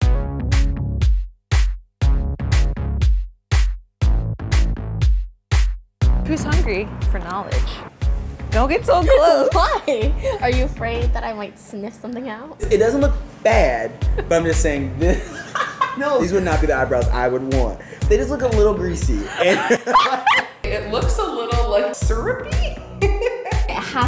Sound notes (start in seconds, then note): 0.0 funky electronic music; 10.0 laughs; 13.6 laughs; 19.2 loud laughing; 23.3 laughs